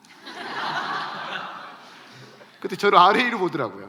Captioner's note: laughs